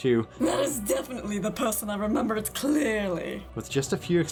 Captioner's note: sassy female voice